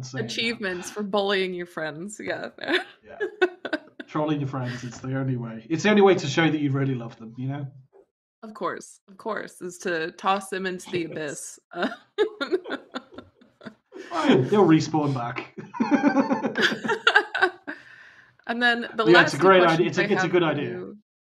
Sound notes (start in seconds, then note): 10.7 laughs; 15.5 laughter